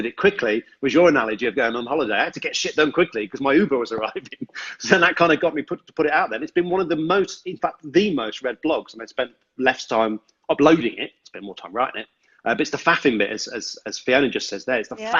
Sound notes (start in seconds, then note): 3.7 laughs